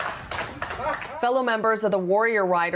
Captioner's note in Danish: Bifald